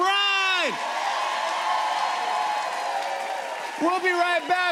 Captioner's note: cheers and applause